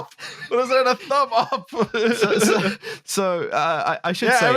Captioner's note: laughter